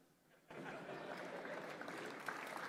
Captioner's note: laughter